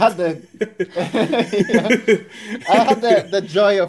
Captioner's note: laughing